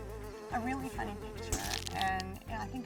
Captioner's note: camera flashes